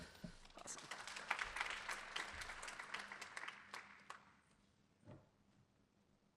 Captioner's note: applause